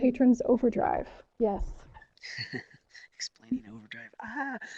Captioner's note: laughs